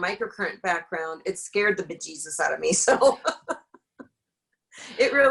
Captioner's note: laughs